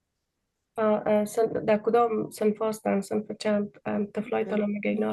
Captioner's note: speaking in Dari